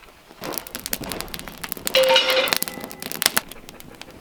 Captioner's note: fire crackling